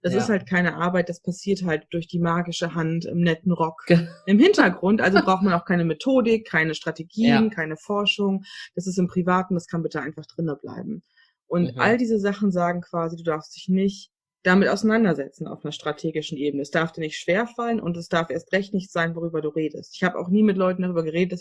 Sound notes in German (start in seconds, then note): 4.9 lacht; 10.5 sarkasmus